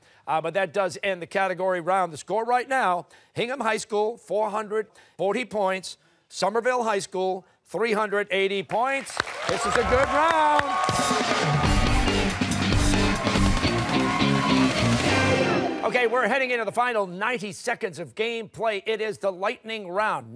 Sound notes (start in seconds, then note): 10.9 cheers and applause